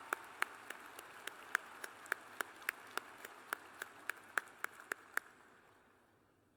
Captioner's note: applause